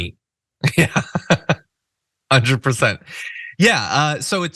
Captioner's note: laugh